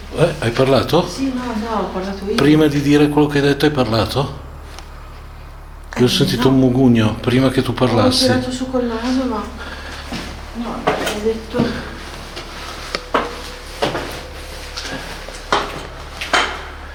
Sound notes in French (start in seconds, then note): 9.5 reniflement